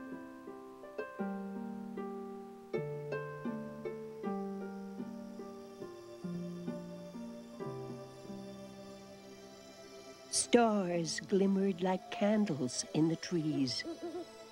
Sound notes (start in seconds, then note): 4.0 crickets; 14.3 owl hooting